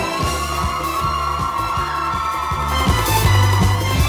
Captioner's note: applause